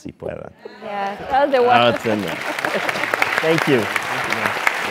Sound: applause

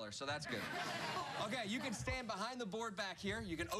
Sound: laughter

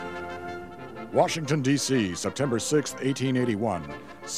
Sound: voiceover

